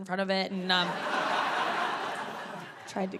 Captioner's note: audience laughing